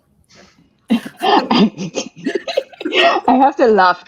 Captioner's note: laughing